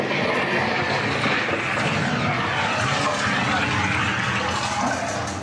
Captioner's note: boom Noises